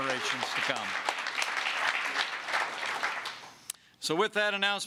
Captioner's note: applause